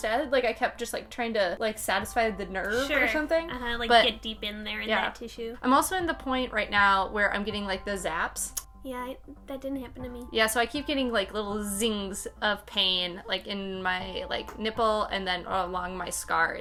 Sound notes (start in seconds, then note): 8.5 clicking tongue